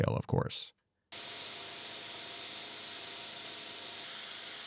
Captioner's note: machine whirring